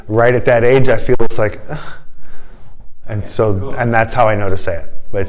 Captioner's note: sigh